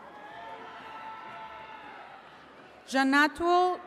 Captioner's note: attendees cheering